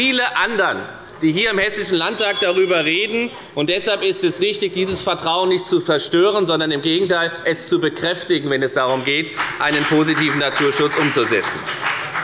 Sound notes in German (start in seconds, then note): 3.4 Unruhe – Glockenzeichen der Präsidentin